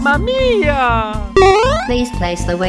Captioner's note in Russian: Дзынь